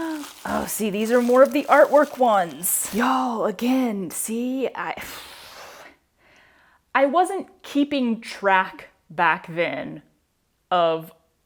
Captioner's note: sigh